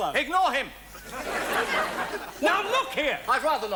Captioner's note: audience laughs